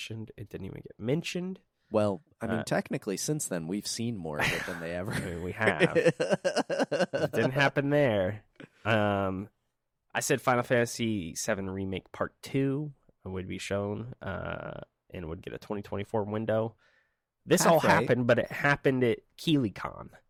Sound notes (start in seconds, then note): 4.4 laughing